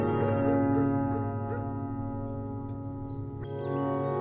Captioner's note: dog barking; birds chirping